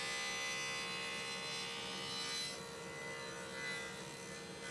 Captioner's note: high-speed saw whirring